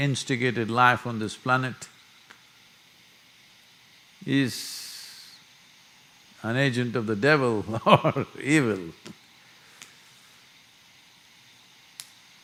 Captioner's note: laughs